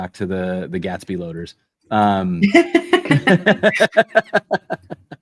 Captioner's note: laughter